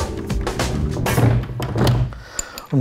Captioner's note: rumbling